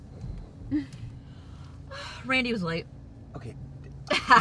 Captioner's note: riendo